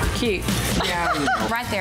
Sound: laughs

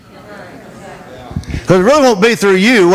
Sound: congregation reacts

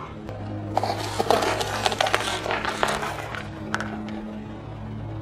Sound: crunching noodles

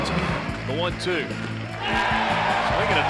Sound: voiceover; crowd cheering

